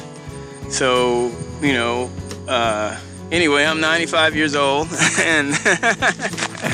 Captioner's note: laughter